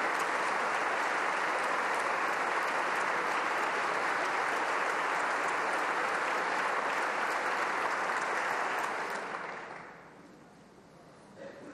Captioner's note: applause